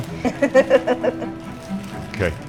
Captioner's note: laughter